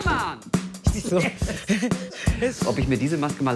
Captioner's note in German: Rhythmische Musik; Lachen